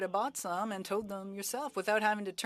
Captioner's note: speaking French